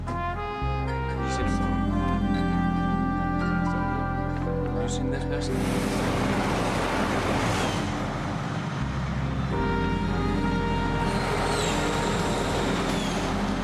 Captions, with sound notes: (muffled chatter) Have you seen this person? (traffic roars)